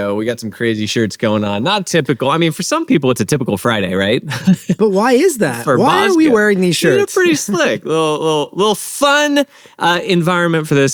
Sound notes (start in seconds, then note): 5.6 laughs